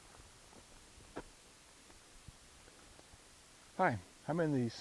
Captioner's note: footsteps